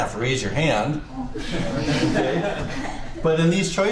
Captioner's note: students laugh